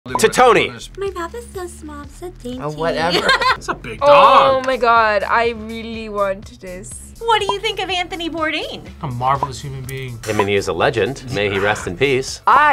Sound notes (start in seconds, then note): 3.1 laughs